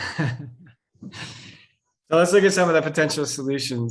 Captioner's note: chuckles